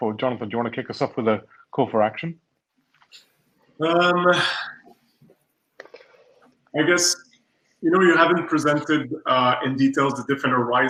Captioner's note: erm